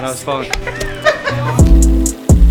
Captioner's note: laughter